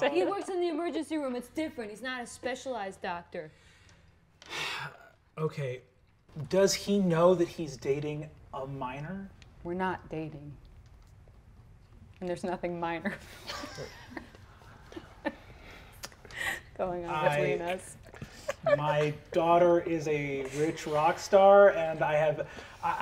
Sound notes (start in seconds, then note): 4.4 sighs; 13.4 laughs